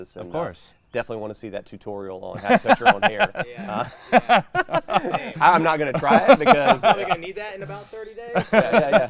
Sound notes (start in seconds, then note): 2.4 laughing